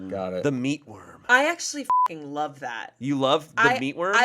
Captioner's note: beep